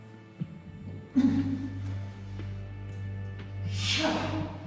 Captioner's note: groans